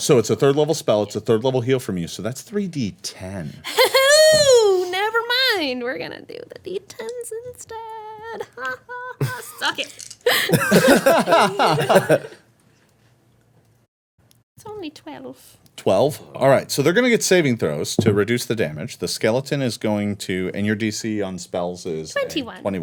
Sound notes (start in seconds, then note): 3.7 laughing; 10.3 everyone laughing